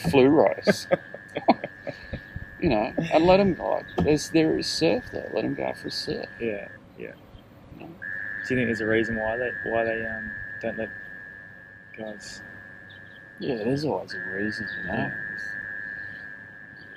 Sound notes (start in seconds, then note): 0.0 laughing